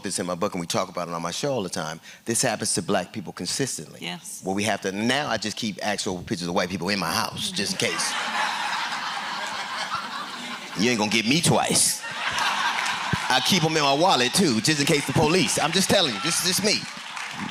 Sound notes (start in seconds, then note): 7.6 laughter; 17.2 laughter and applause